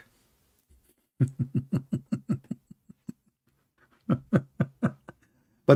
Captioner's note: Ketawa